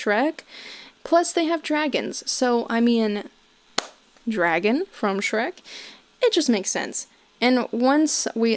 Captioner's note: claps once